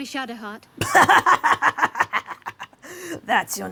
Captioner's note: Pitch laughs in half-orc